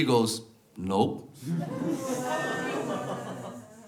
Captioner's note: audience laughs